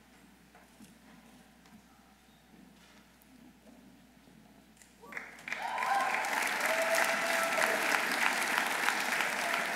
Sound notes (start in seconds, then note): 5.1 audience applauding